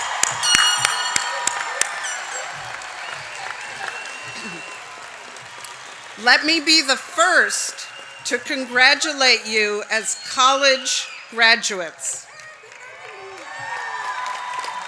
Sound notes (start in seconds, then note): 2.6 applause